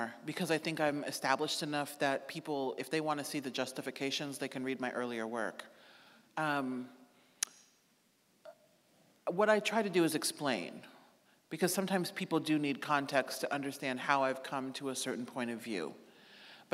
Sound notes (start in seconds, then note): none